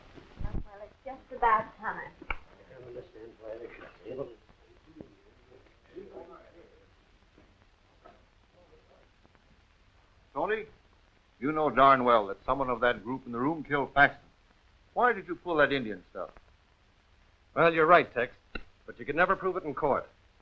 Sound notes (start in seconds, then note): 1.1 group muttering